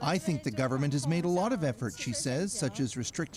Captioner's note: speaking Foreign Language